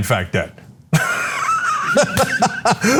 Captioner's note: laugh